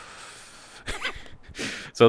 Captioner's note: laugh